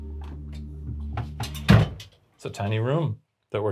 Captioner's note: door closes